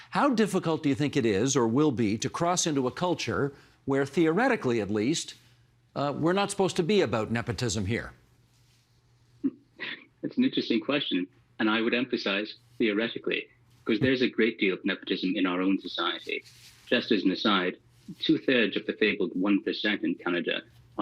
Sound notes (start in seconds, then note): 9.4 chuckling